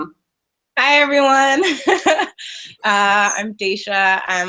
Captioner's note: laughing